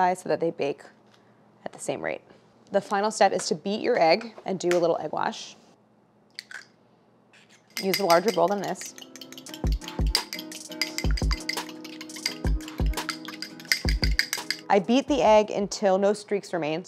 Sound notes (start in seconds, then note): 7.7 glass clicking; 7.9 upbeat music